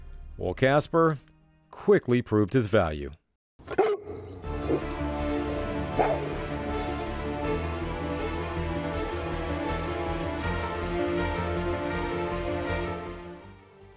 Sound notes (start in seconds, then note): 3.6 Casper Barking and Growling; 4.0 dramatic Music